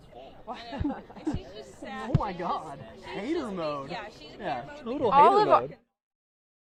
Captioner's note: laughter